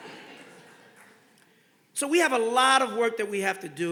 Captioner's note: audience laughing